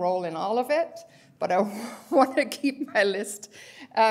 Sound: laughter

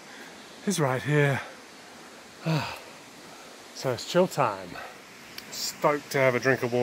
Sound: sighs

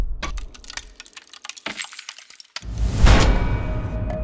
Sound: sound of shattering glass

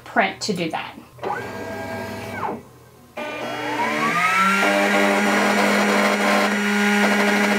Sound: machine whirring

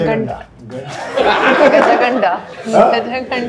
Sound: laughing

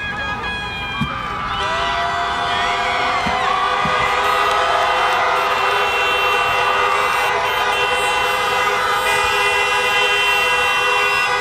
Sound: screams, cheers, and honking horns

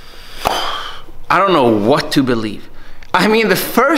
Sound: sighing

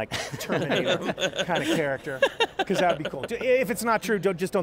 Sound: all laughs

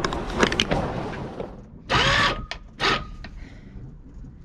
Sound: windlass noise

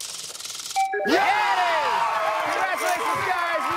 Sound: chime

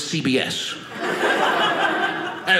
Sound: audience laughing

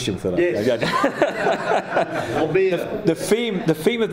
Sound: laughing

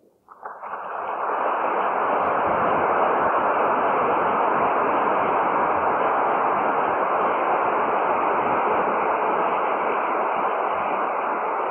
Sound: applause

